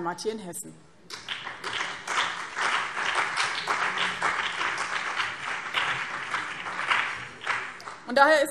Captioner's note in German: Beifall BÜNDNIS 90/DIE GRÜNEN und CDU